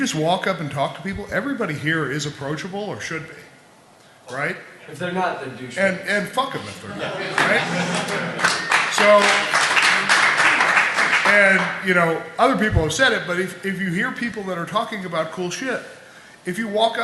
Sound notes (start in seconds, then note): 6.8 laughter; 7.3 applause